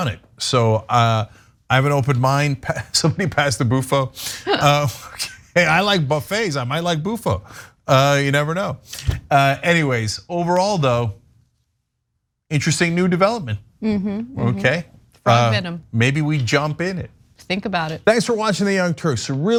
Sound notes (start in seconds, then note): 4.2 laugh